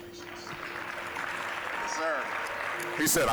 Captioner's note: soft music; applause